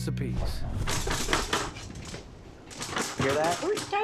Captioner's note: rustling sounds offscreen